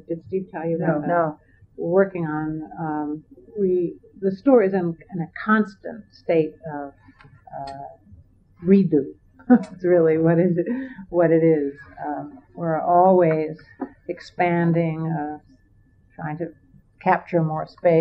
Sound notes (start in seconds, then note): 9.0 laughs